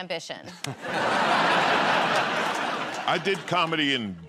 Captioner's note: laughter